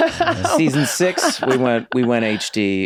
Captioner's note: laughs